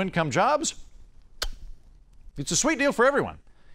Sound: lips smooch

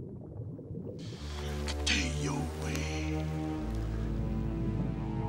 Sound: non-english speech

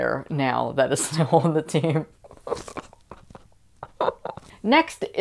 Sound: laughing

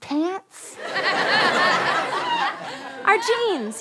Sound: audience laughter

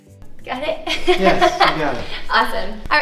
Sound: laughs

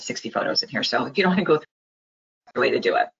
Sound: sound cut out

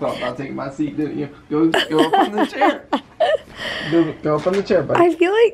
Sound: laughing

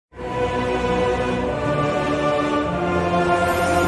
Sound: evil Sound Effect

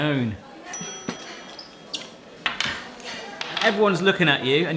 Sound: bell dinging

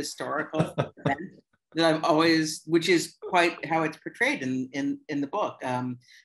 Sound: laughter

